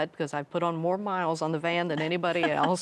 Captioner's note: chuckling